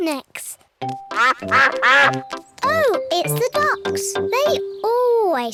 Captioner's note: laughs; ducks quack